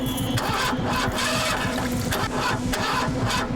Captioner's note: engine won't turn over